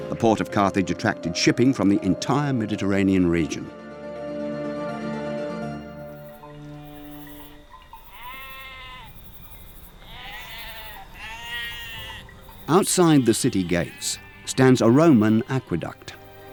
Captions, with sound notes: The Port of Carthage attracted shipping from the entire Mediterranean region (sheep bleating) (cowbells ringing) Outside the city gates stands a Roman aqueduct.